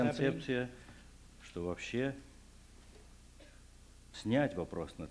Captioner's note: non-english speech